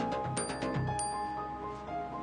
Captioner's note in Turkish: telefon çalar